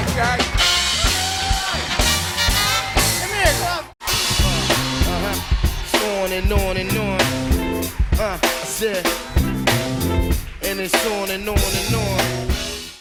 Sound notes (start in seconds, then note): 1.2 cheers and applause continue